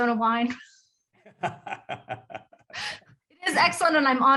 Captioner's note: participants laughing